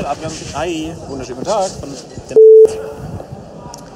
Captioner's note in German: Aufnahme eines Telefonats